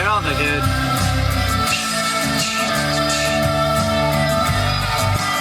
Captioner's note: make's "tsshhh" cymbal noises